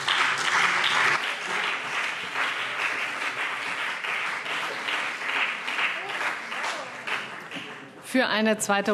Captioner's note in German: Beifall CDU und BÜNDNIS 90/DIE GRÜNEN